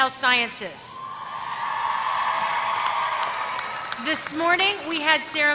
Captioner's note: applause